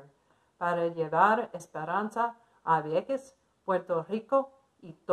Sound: speaks in foreign language

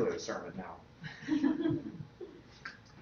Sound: laughter from the congregation

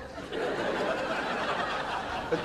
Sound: laughters

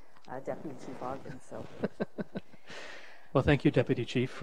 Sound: laughs

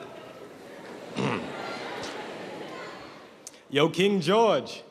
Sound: clears throat

